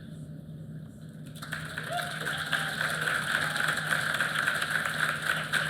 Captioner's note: applause